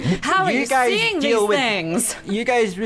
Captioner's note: laughing